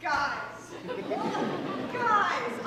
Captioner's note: audience laughs